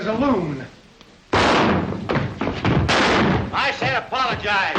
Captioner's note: gun banging